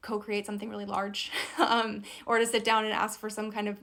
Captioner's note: chuckles